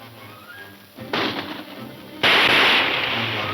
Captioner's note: guns shooting